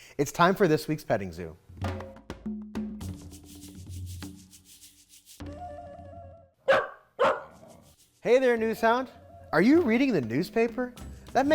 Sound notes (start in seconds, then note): 2.0 excited music; 6.6 dog barking